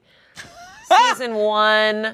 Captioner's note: laughs